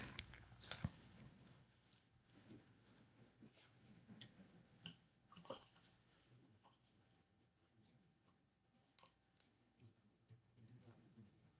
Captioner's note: silence